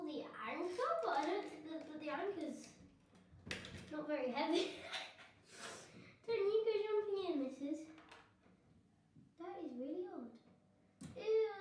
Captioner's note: laughs